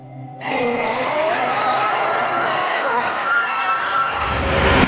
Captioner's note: creature breathing heavily; creature squealing